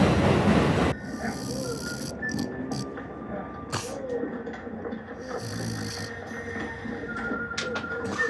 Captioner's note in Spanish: Ronquidos